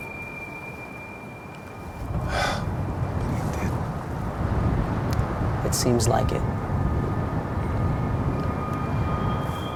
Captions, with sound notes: (sighs) But he did. - It seems like it.